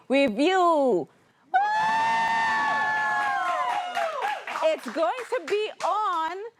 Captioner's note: audience Cheering